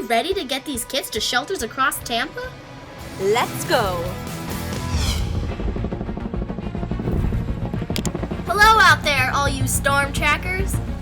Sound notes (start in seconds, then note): 4.0 adventurous music; 5.0 helicopter motor